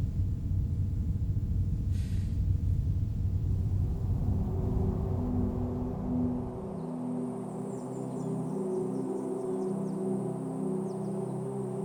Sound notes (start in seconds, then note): 4.2 dramatic music; 7.6 birds chirping